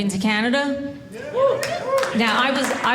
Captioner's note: audience cheering